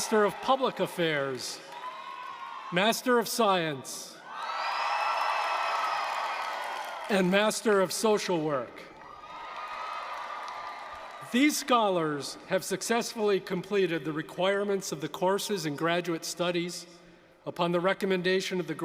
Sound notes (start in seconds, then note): 4.1 cheers